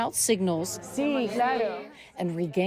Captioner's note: doctor speaking in foreign language